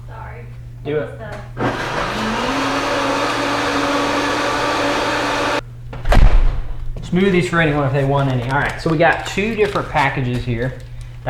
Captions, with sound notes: *blender sounds* Smoothies for anyone if they want any. So we got two different packages here.